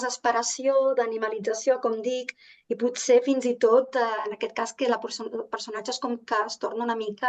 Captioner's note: continues speaking in Catalan